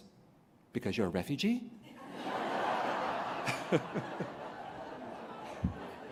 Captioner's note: laughter